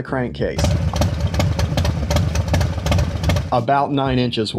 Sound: motorcycle engine roaring

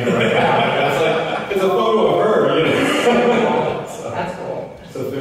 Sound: laughter

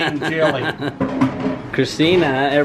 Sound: laughs

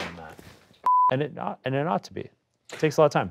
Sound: audio beeps

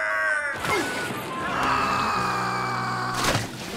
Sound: screaming

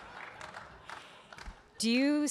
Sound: audience laughing; audience clapping

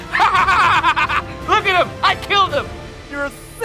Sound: laughing

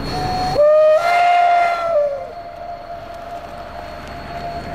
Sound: OY one long whistle

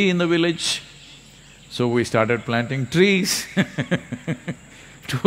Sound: laughs

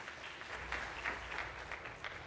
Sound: applause

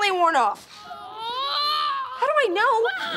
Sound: moaning

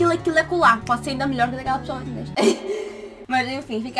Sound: laughter

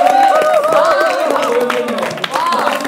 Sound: applause

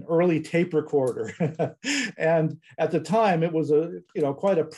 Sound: laughs

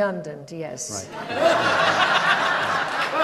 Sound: audience laughs

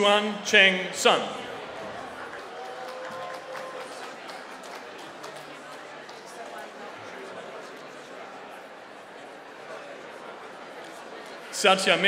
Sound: applause

